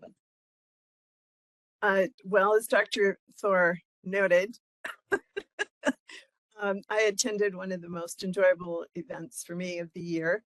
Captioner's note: laughing